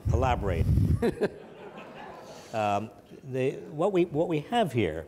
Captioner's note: audience laughs